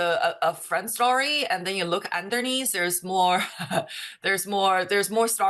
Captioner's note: giggles